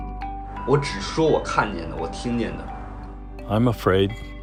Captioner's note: speaking foreign language